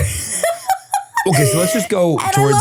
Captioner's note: person laughing